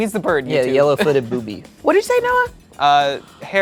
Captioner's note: laughing; chuckles